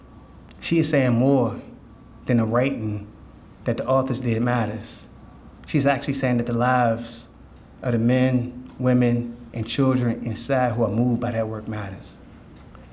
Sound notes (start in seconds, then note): none